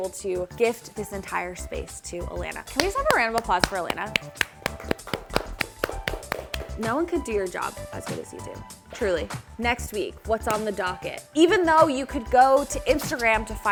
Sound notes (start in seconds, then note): 4.3 people clapping